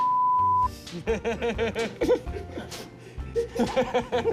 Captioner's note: all laughing